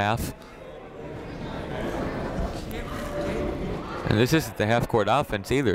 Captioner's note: people talking in the crowd